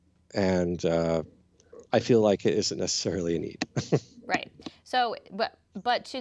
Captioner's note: chuckles